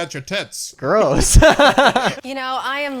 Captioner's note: laughs